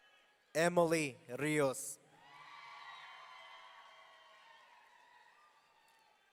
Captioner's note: audience cheering